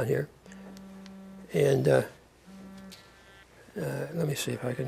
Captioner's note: phone vibrating